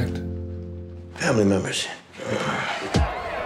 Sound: sighs

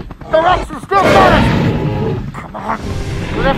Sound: T-Rex growling

